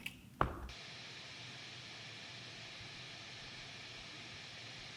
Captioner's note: static hissing